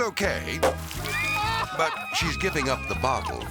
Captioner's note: champagne splashing; cork pops